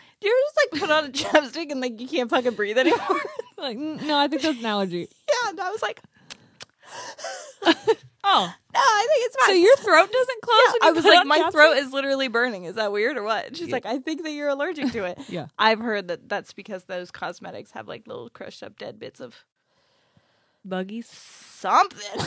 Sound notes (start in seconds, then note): 2.8 laughs